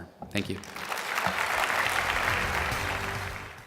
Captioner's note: applause